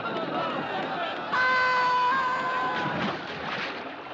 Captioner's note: Gritos